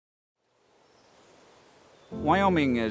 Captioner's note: birds chirping